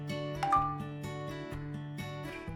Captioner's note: Twitter chimes; downbeat music